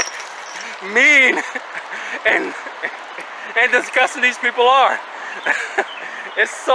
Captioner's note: chuckling